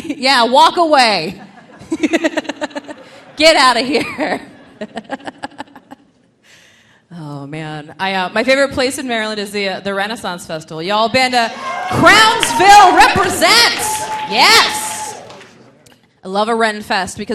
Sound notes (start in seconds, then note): 1.3 laughing; 4.3 laughs